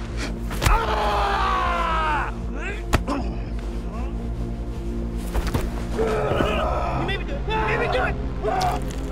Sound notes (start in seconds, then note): 0.8 grunts